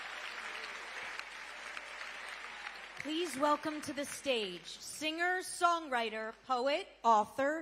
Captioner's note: cheering